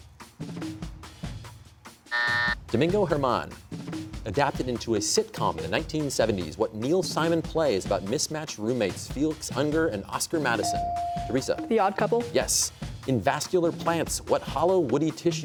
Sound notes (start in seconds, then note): 2.1 buzzer